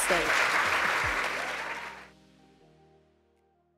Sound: audience clapping

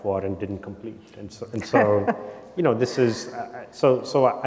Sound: chuckles

